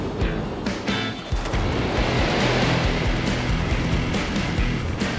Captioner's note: upbeat music; waves crash